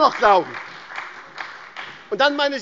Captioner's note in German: Beifall bei der SPD